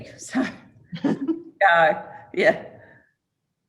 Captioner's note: chuckles